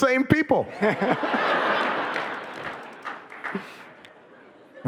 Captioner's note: audience laughing